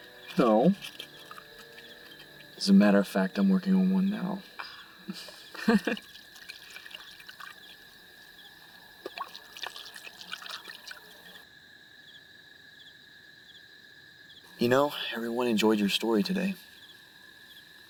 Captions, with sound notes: No... As a matter of fact, I'm working on one now. Ah. (Dawn Laughing) (Crickets Chirping) You know, everyone enjoyed your story today.